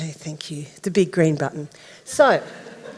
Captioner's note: audience laughing